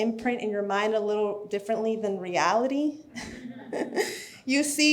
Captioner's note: laughs